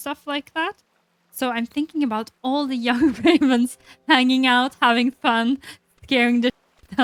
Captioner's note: laughs